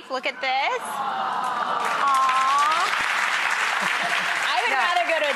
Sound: applause

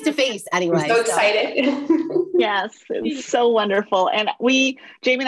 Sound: chuckles

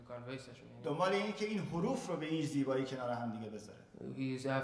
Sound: speaking in farsi

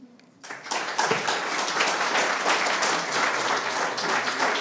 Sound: attendees applauding

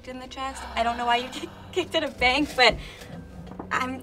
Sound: gasping

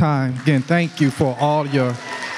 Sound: audience applauds

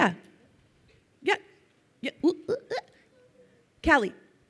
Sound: vocalizes

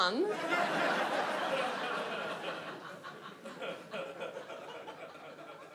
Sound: audience laughs

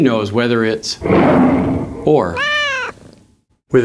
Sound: big growl; small meow

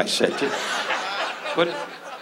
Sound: audience laughs

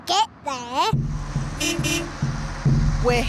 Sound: horn beeps

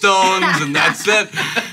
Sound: laughing

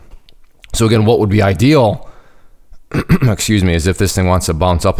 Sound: coughs

